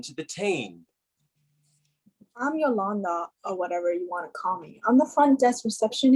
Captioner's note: stereotypical valley girl accent